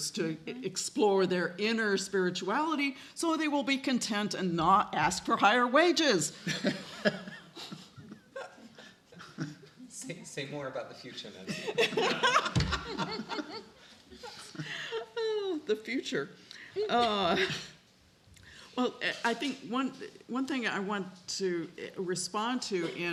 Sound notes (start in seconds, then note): 6.5 light laughter; 11.5 laughing